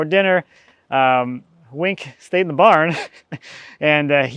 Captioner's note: chuckles